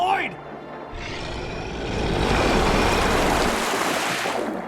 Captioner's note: creature roaring